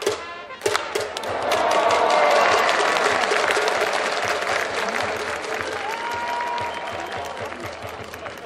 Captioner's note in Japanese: 歓声･拍手